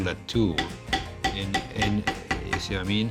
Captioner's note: banging